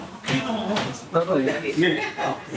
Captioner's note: crowd oohs